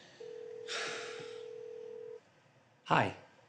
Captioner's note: phone rings